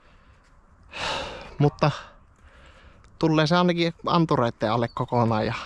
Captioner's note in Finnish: huokaus